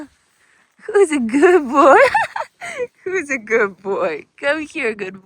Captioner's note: chuckles